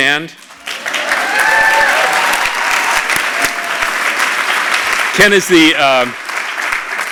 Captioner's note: applause